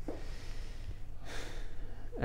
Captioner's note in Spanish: respiración profunda